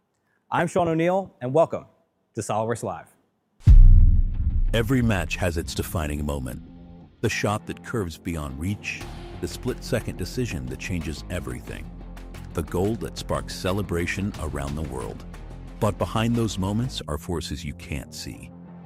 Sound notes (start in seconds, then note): 3.6 intense boom swells